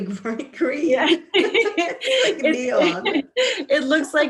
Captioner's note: laughter